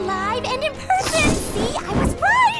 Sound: squeals

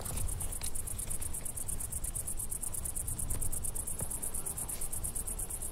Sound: wind blowing

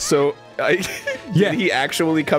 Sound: laughter

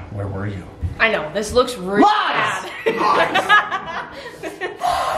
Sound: laughs

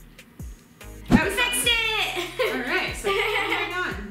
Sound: laughing

